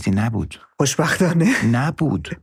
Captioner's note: laughs